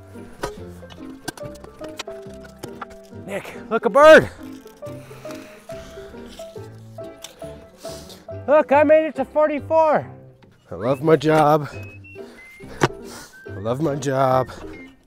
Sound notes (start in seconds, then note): 0.2 soft music; 5.4 soft music; 12.7 bar hitting a rock